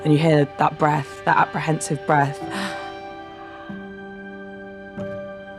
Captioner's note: gasping